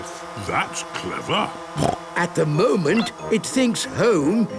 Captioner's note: snorting